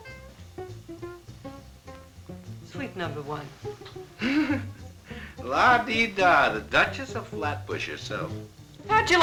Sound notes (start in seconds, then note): 4.2 laughing